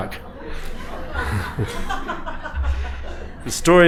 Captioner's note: laughter